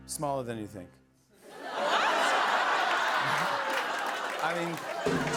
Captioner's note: laughter